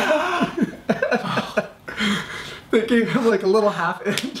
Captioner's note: laughs; sighs